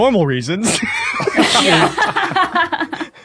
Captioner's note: group laughing